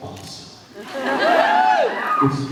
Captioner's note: laughs, cheers